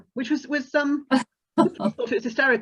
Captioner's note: laughs